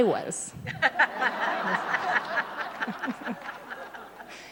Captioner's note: laughter